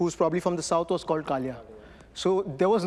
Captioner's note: speaking Hindi